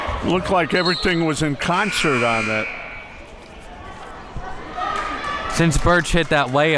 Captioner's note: buzzer rings